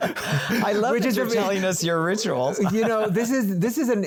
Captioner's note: both laugh